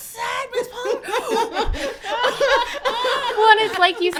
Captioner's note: laughing